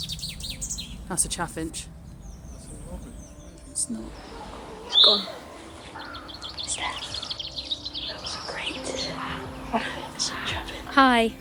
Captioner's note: contributors whisper